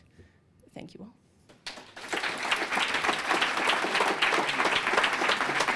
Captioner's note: applause